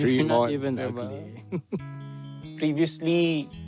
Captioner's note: chuckles